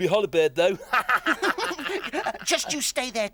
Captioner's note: both laugh